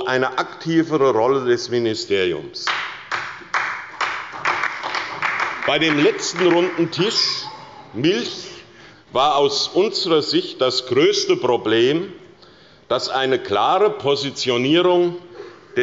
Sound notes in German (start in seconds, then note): 2.6 Beifall bei Abgeordneten der SPD und bei der LINKEN